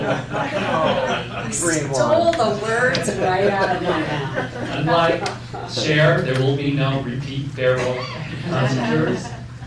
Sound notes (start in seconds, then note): 2.7 laughter